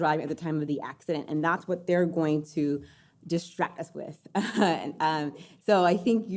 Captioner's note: laughs